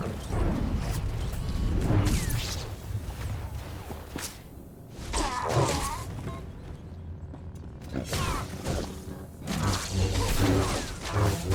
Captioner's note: gunshots